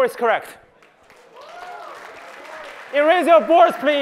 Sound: applause

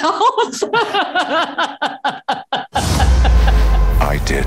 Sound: laughs

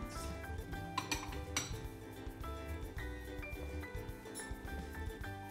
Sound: dishes clattering

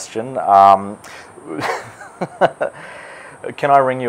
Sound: laughs

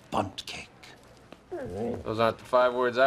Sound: soft growl

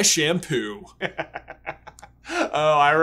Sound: laughs

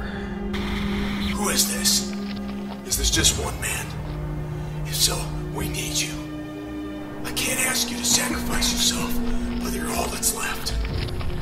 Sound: radio

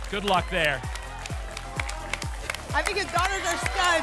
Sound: applause and cheering cont

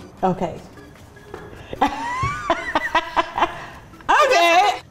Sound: laughs

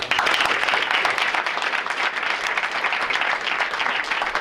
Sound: audience applauding

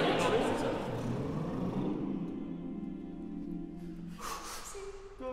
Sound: lip trill; exhale; inhale

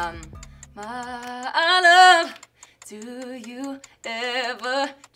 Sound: clock ticks

